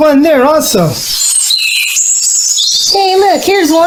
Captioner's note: birds chirping